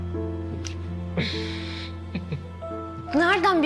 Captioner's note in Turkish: Gülüyor